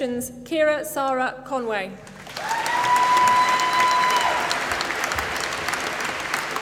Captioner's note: applause